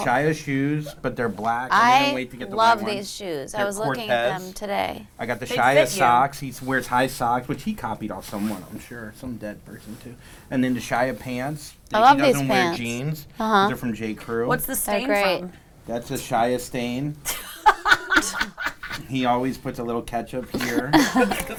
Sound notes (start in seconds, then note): 17.3 laughs; 20.5 all laughing